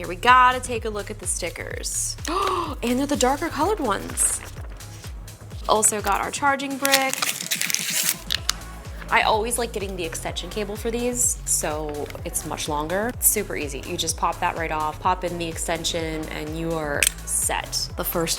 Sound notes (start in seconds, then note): 2.2 gasps; 6.7 thin film crumpling